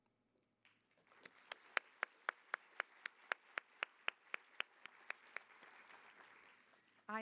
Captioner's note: applause